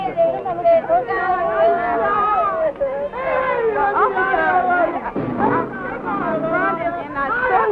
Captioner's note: shouting and crying